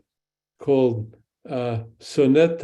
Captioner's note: speaks in Hebrew